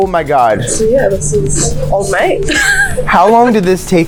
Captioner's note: laughs